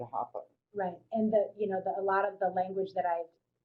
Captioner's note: voiceover